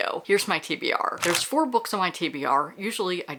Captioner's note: camera shutter